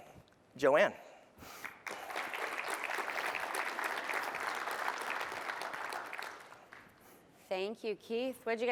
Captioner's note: applause